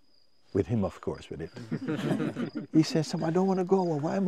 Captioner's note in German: Lachen